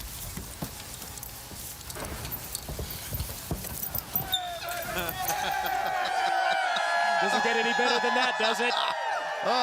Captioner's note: crowd chatter